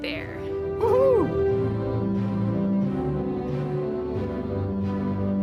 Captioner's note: man cheering